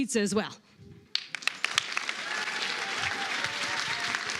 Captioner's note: applause, cheering